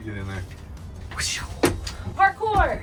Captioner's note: makes whooshing sound